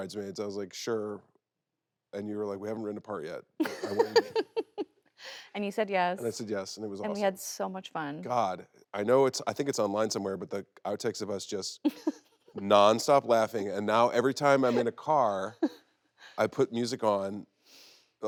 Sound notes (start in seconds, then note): 3.6 Kristen laughing